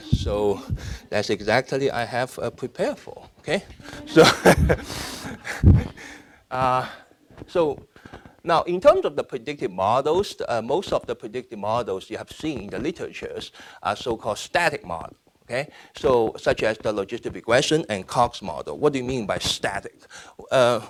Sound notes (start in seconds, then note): 3.9 laughing; 4.1 audience laughing